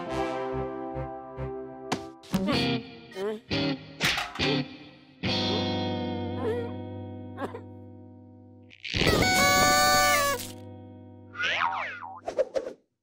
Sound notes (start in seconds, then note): 8.9 party horns blow